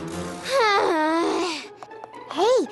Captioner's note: sighs